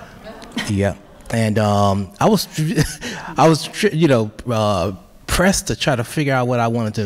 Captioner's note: chuckles